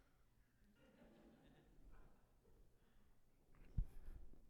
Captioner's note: audience laughing